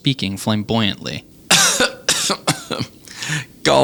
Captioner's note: coughing